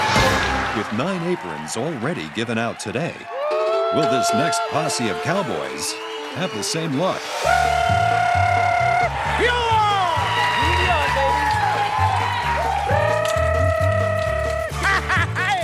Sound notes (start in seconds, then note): 6.8 trills; 7.4 Gritos; 12.3 trills; 15.4 Gritos em falsete